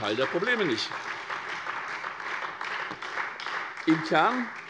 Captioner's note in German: Beifall SPD